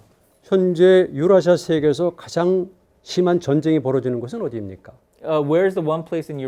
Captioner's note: speaking in Korean